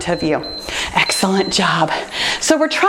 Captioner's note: timer beeps